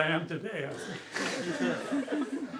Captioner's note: laughter